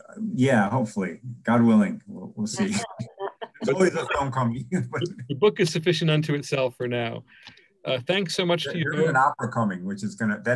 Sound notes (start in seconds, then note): 2.5 laughs; 2.7 murmurs